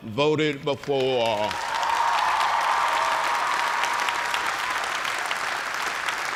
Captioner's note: cheers and applause